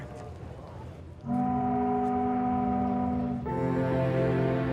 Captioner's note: ship horn blares